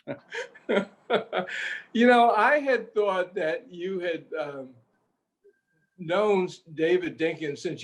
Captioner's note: laughs